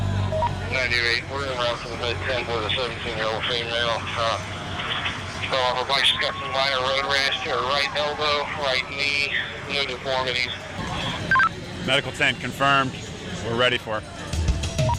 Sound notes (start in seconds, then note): 0.3 radio feedback; 6.1 voiceover